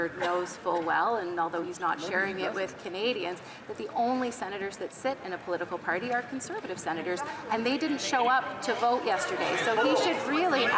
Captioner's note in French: voix de l'interprète